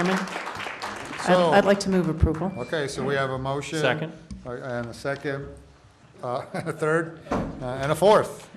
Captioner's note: applause